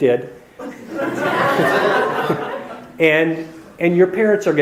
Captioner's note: audience laughs